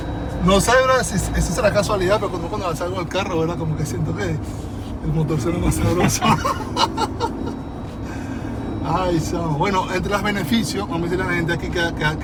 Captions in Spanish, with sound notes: no sé, ¿verdad? Si eso será casualidad, pero cuando salgo el carro, ¿verdad? Como que siento que el motor sea más sabroso. [risas] Ay. Bueno, entre las beneficios vamos a decirle a la gente aquí que